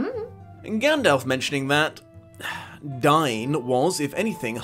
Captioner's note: sigh